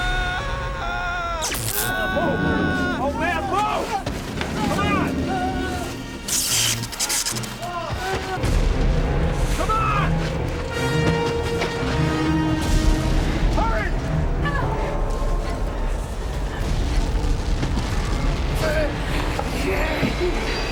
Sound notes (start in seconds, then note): 0.1 Friedman yells; 1.4 electrical zinging; 1.7 yelling; 6.5 tense music; 6.5 zinging; 11.1 tense dramatic music; 15.9 tense music; 16.2 booming